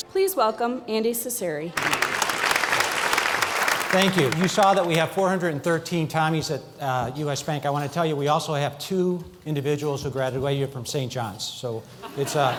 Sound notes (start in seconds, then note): 1.7 applause; 12.0 laughter